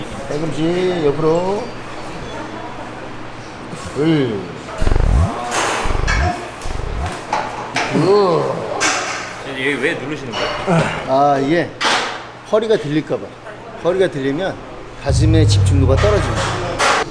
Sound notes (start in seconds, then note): 6.6 sounds pushing down